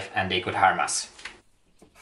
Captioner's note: pen sound